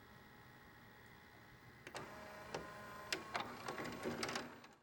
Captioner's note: VCR whirring